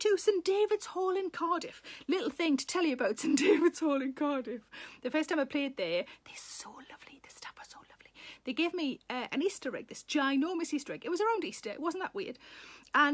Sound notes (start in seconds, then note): 3.3 Sarah laughs; 6.3 Sarah whispers